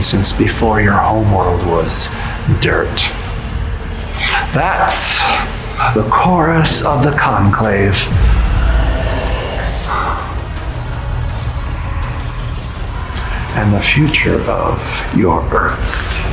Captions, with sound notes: since before your home world was dirt. That's the chorus of The Conclave. (mysterious roaring) And the future of your Earth.